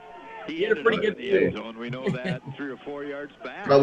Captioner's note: laughs